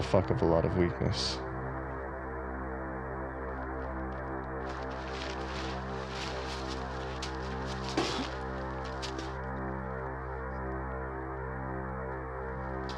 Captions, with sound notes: I have a fucking lot of weakness. (disorienting music) (Oliver coughs)